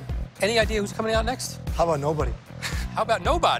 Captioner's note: laughs